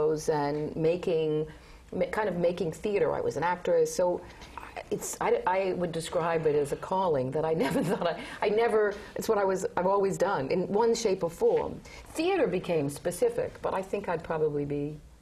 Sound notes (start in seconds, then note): 6.7 laugh